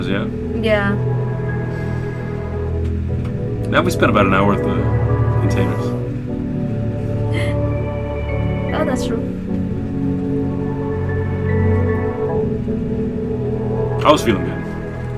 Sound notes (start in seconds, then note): 10.1 giggles